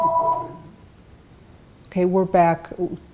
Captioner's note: phone ringing